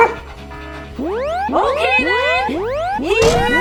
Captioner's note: dog barking